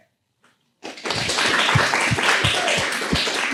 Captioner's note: applause